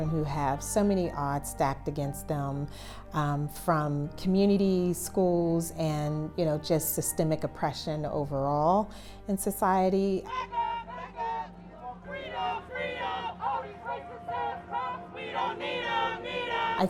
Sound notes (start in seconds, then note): 10.2 chanting; 11.8 crowd